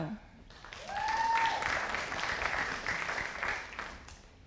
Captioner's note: audience applauding